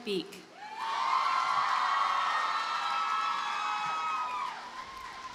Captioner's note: audience cheers and applauds